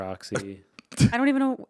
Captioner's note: chuckling